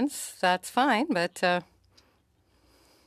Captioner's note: speaking in French